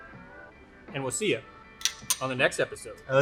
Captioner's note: glasses clink